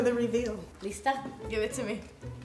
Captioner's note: speaking foreign language